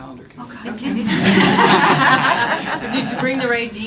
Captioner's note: laughter